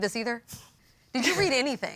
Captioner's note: Mrs. Mays snickers